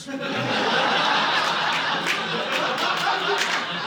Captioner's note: audience laughing